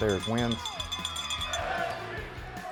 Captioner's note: bell ringing; crowd cheering